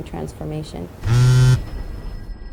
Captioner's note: cell phone buzz